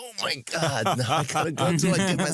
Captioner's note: laughter